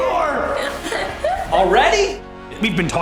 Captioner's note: laughs